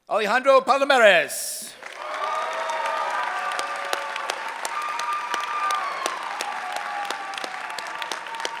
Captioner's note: cheering